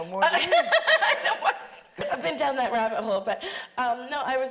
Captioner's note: laughs